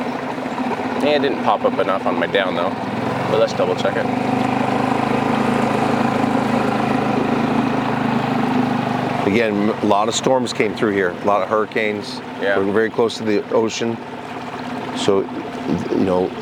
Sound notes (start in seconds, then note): 0.0 engine rumbling; 4.1 engine rumbling